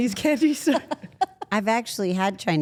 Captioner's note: Steph laughs